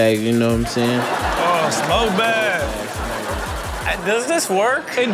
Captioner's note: audience laughs